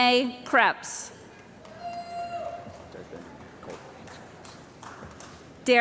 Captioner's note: cheering & Applause